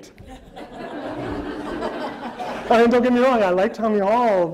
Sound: audience laughter

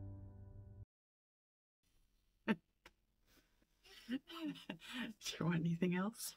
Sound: laughter

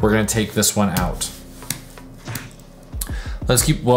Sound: keyboard clicking

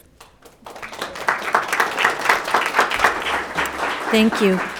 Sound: audience applauding

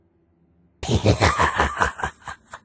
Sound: laughs

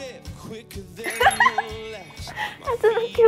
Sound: laughing

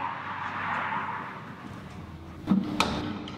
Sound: traffic Passes In Background

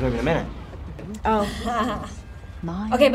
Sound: laughs

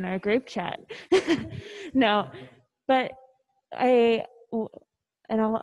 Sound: chuckles

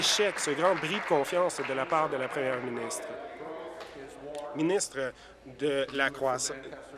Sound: applause

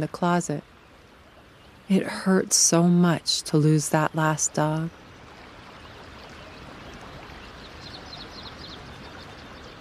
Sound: water flowing

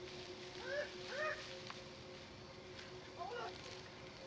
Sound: Franklin whimpers

